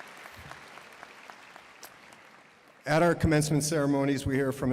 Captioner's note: applause